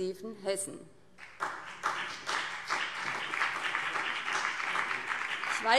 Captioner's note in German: Beifall BÜNDNIS 90/DIE GRÜNEN